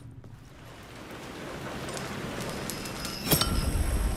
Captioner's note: wind blowing